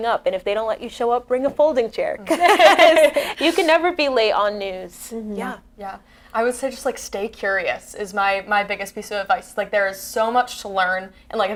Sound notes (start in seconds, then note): 2.3 laughs